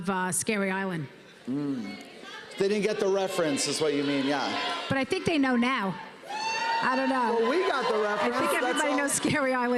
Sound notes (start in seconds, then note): 6.2 audience cheering